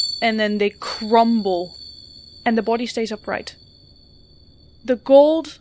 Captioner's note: rhythmic chiming